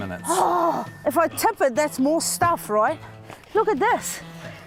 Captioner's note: groans